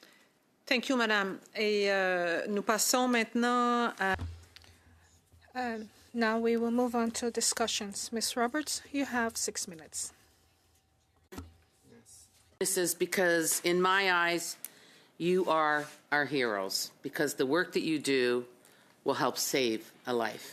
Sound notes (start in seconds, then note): 8.0 speaking French